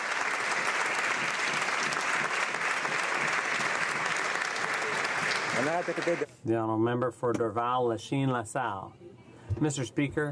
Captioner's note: applause